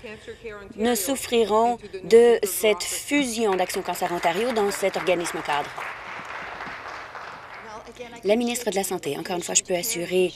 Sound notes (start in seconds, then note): 6.1 applause